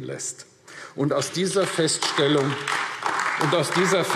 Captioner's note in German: Beifall AfD